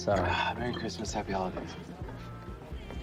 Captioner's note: none